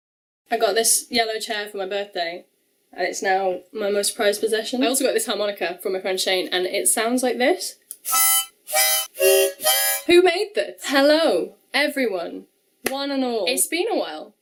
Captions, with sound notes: I got this yellow chair for my birthday and it's now my most prized possession I also got this harmonica from my friend Shane and it sounds like this [out of tune h0nk] [h0Nk] [hOnK] [HOnK] who made this?? hello everyone one and all it's been a while